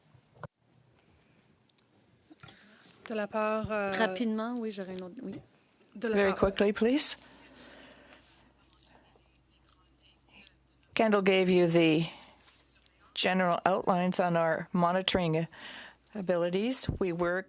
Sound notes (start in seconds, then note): 7.5 speaking in French